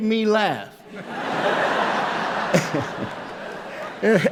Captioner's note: laughter